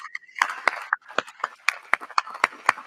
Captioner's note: applause